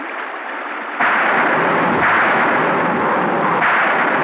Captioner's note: Thunder Rumbling